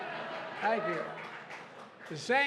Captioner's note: applause